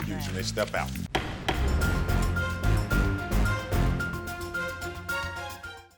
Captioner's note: dramatic music; gavel thudding